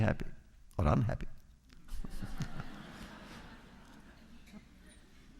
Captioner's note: laughter